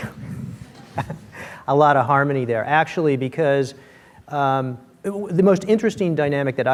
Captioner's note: chuckles